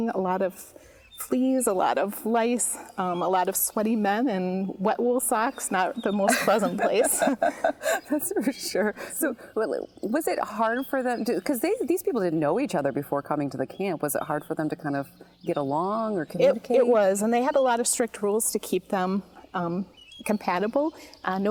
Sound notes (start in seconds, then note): 6.0 laughs